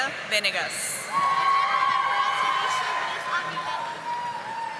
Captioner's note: audience applauding